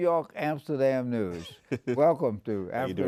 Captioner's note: laughs